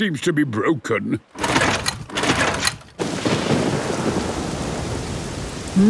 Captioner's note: engine struggling